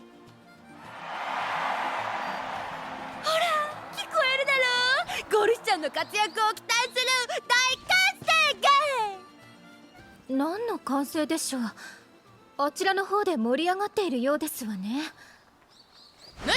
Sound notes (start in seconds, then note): 0.7 cheers~~~!